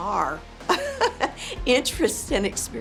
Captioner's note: laughing